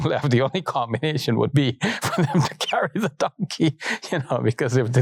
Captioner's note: laughs